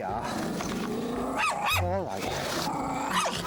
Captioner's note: Flossie growling and barking